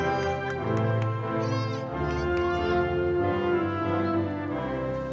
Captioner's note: audience members exclaiming